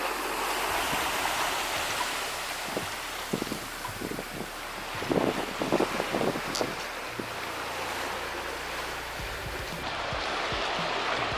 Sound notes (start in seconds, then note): 1.0 water and wind rushing